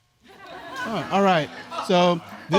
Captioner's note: audience chuckling